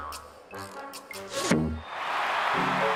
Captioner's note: crowd cheers